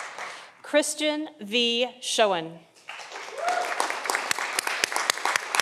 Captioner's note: audience applauding